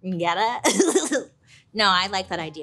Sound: laughs

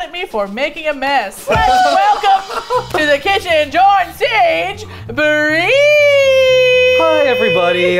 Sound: laughs

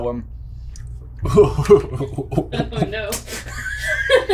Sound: gagging

